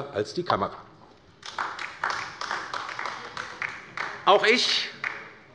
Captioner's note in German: Beifall bei der LINKEN